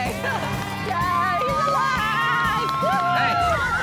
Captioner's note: crowd cheering